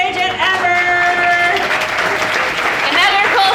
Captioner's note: audience applauding